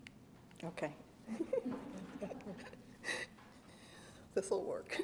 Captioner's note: laughs